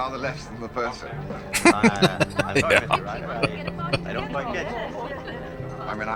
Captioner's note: laughing